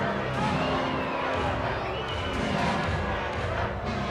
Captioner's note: audience chattering